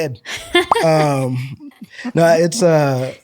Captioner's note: laughter; comedic pop sound effect as disappears from the visual for a moment